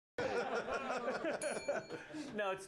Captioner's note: bell rings